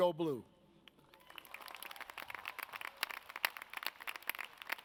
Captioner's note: audience cheers